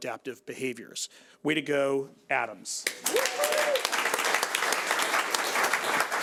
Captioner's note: audience applauds